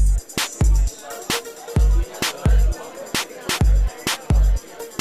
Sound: people chattering

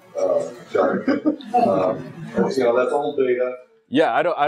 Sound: laugh

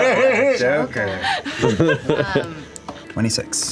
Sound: laughter

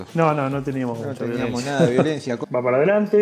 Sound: hahaha

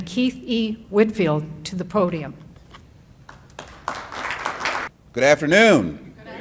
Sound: applause

